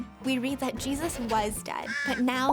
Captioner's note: bird cawing